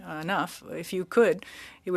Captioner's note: speaking French